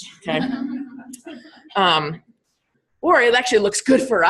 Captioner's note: all laughing